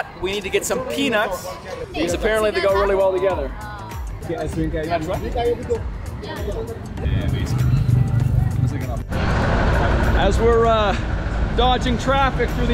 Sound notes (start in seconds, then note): 4.5 speaking in foreign language; 8.7 thanks in foreign language